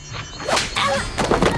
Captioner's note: Promise groans